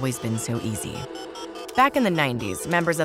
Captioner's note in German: Einwählmodem-Geräusche